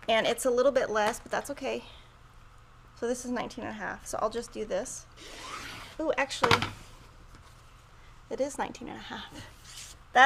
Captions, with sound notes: And it's a little bit less, but that's okay. So this is 19 and a half. So I'll just do this. Oh, actually (cutter clatters) it is 19 and a half.